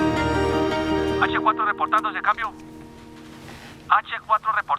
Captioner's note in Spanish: Voz en la radio